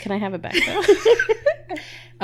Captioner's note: laughing